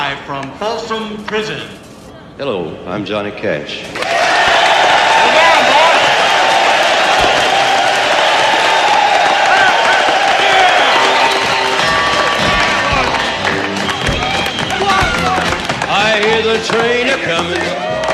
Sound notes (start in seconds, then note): 4.0 cheering